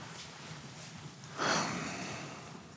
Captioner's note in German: seufzt